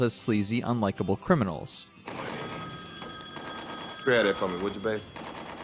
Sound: phone ringing

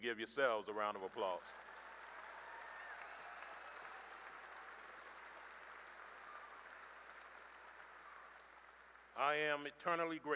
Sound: cheering and applause

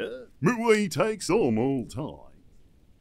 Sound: changing voice

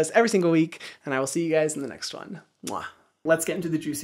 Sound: kisses

